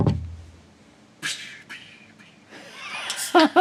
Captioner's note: drumming on the table; makes cymbal-noises; laughs maniacally